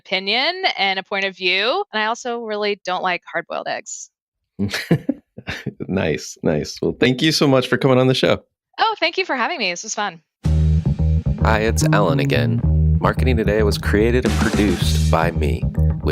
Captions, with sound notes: and a point of view, and I also really don't like hard-boiled eggs. (laughing) - Nice. Nice. Well, thank you so much for coming on the show. - Oh, thank you for having me. This was fun. (upbeat instrumental music) - Hi, it's Alan again. Marketing Today was created and produced by me